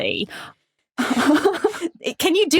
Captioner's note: laugh